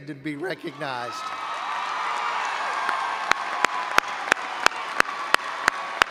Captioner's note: audience cheering and applauding